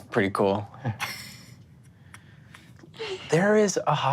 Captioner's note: laughs